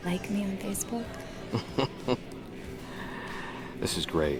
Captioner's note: chuckling